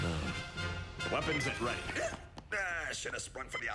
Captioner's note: gasps